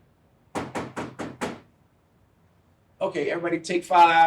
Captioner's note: person knocking on door